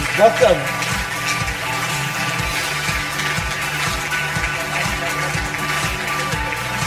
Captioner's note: audience applause; upbeat music